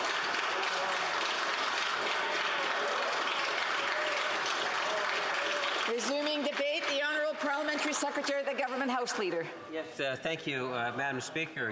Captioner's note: applause